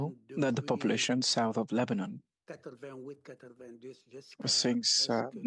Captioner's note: speaking French